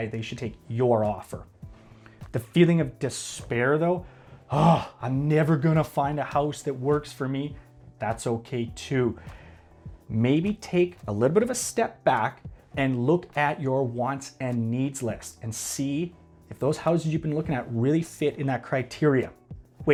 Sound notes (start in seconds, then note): 4.4 sighs